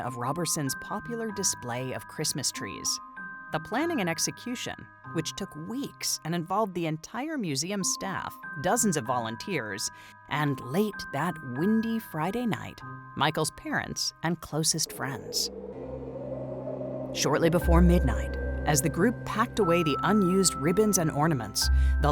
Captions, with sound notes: of Roberson's popular display of Christmas trees. The planning and execution, which took weeks and involved the entire museum staff, dozens of volunteers, and, late that windy Friday night, Michael's parents and closest friends. (wind howling) Shortly before midnight, as the group packed away the unused ribbons and ornaments,